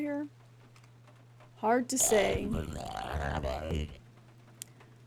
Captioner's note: guttural Noises